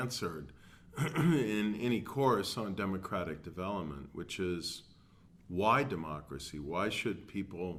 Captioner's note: cough